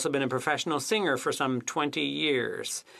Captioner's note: speaking French